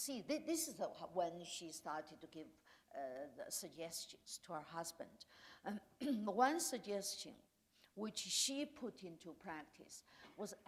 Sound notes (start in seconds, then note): none